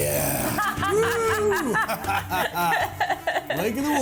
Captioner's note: laughs